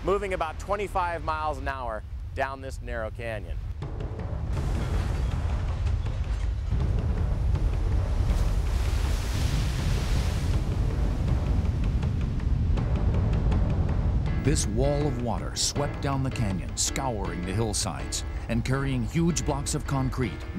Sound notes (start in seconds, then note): 6.4 intense music; 14.7 voiceover